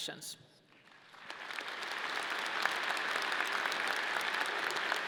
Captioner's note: audience clapping